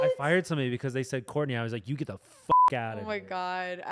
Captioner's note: beep